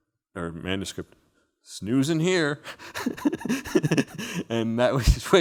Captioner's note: laughing